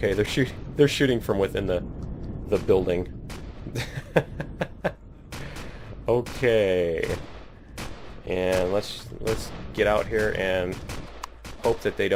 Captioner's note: laughs